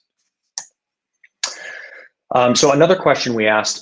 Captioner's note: clicking